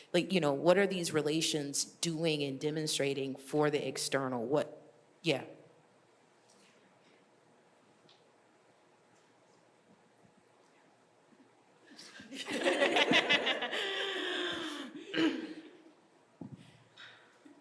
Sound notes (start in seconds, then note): 12.1 laughing